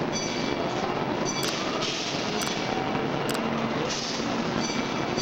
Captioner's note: machinery humming